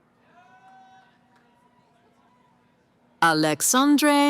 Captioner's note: cheering